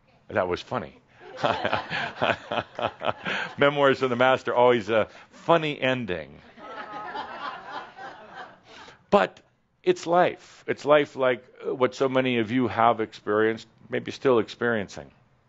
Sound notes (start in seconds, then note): 1.4 Adamus chuckles; 6.6 some laughter